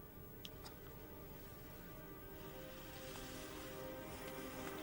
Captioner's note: lips smack; haunting music playing